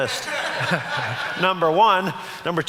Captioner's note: audience laughs